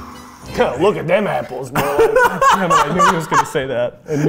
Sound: laughing

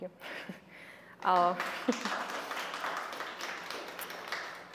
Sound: applause

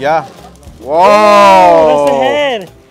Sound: both exclaim

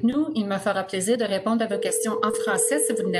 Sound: téléphone sonne

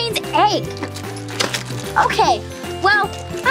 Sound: packets rustling

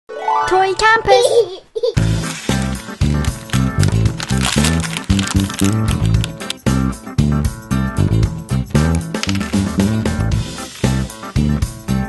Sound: candy making sound

